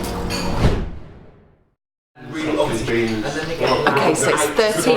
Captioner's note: air whooshing